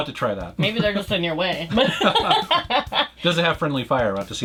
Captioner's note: both laughs